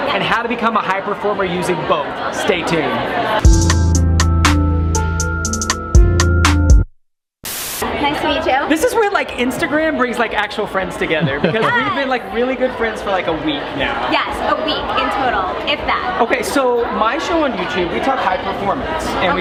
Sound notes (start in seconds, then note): 3.4 electronic music; 7.4 TV static buzzing